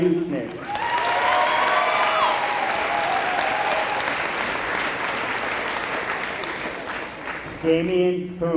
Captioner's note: applause